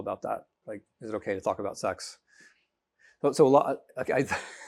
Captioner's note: laughing